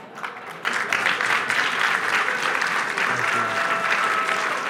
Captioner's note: applause